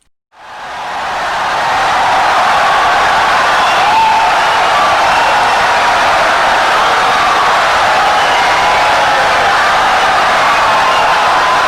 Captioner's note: wild applause and cheering for 17 seconds